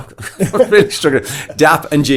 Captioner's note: laughs